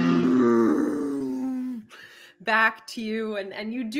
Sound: dinosaur roaring; imitating dinosaur roaring

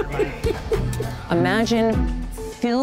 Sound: laughs

